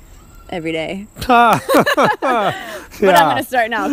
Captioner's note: laughs